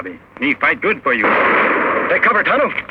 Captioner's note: gunshot fires